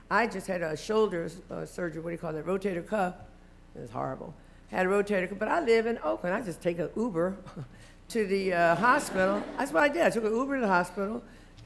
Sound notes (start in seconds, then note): 8.6 laughter